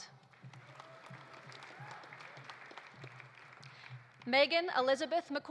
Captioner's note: audience applauding; audience cheering